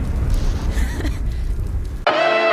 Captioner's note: nervous laugh